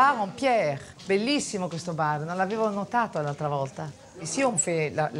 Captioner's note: speaks in Italian